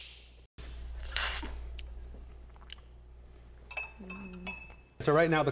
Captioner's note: loudly slurping; slurping